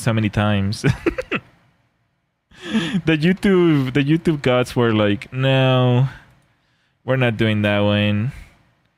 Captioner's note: laughter